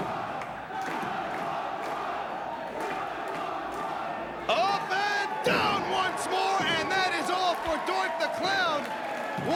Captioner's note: crowd cheering